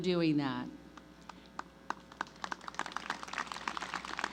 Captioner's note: applause